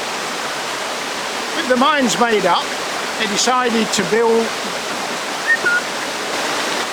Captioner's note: whistles